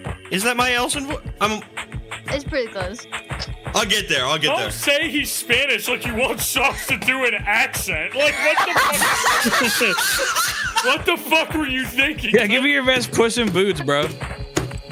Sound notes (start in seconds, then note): 8.1 all laughing